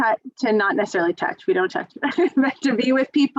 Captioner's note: laughs